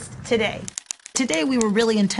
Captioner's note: typing